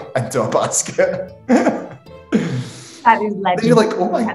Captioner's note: laughing